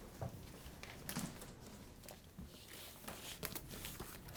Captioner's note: paper crackling